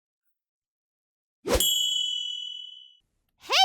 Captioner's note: swish